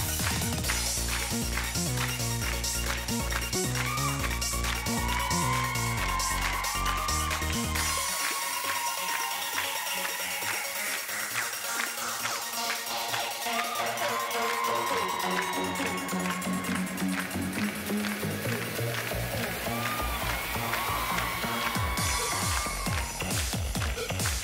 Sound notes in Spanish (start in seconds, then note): 0.1 Palmadas al compás; 4.7 Gritos y exclamaciones; 11.4 Palmadas al compás; 19.6 Gritos y exclamaciones